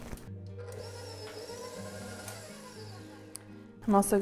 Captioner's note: whirring